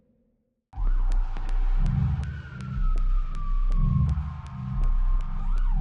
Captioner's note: ambulance sound